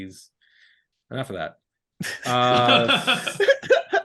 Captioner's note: laughing